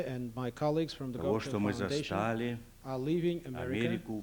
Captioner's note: non-english speech